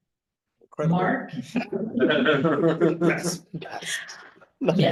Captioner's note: audience laughing